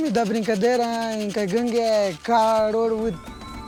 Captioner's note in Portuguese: chocalho tocando